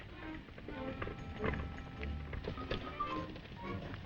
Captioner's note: hooves thudding